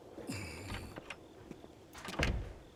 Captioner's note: door opens; door clicks shut